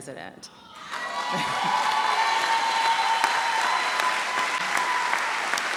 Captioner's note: audience cheers and applauds